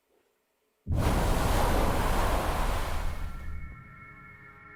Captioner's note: waves rumbling; eerie music